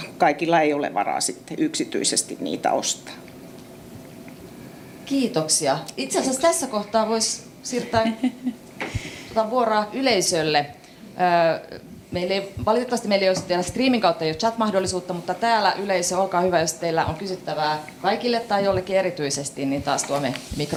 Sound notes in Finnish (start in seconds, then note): 7.8 naurua